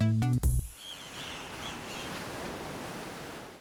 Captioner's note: waves crashing